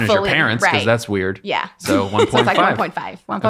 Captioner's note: laughing